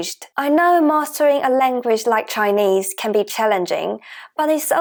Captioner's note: Mandarin